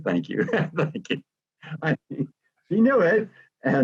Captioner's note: laughs